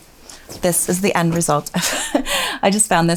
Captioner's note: laughs